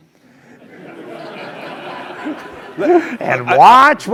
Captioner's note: laugh